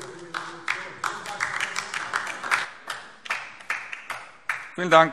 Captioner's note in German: Beifall DIE LINKE